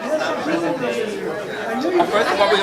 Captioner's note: all chattering